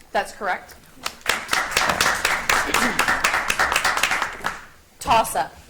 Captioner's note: audience applauds